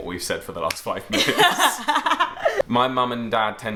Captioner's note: both laugh